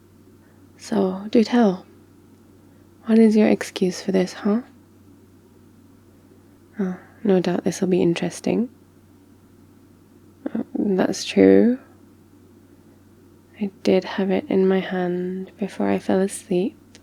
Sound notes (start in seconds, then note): none